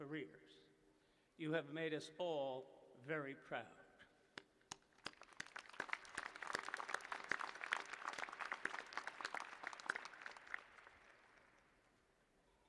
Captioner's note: applause